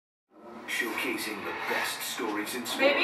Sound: television noise on the background

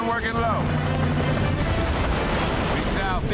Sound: helicopter rotors thumping; water rushing

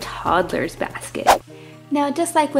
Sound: whoosh

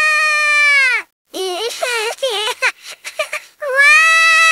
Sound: crying and sobbing

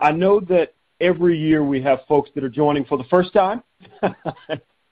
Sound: chuckling

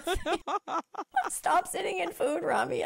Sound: laughing

